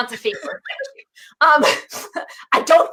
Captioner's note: laughs